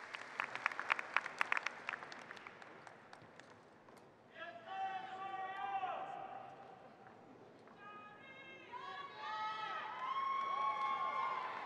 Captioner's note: applause